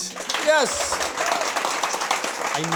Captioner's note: applause